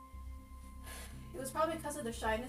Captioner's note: sighs